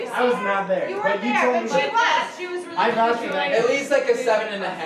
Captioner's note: group chattering